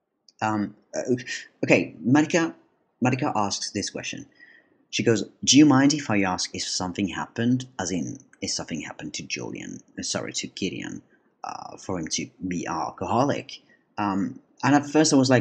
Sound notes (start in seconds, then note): none